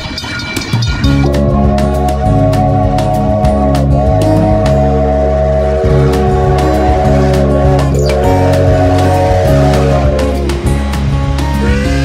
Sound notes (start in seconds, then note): 2.0 train bell and horn blaring; 7.5 upbeat music